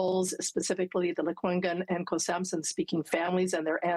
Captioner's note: elle parle en langue autochtone